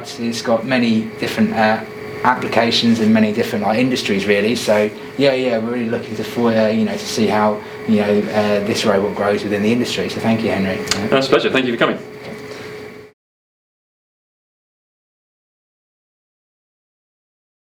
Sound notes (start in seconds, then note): 16.4 silence